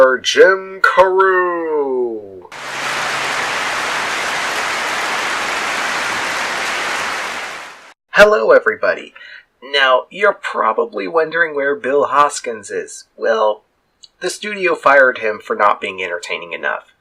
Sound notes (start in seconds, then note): 2.7 clapping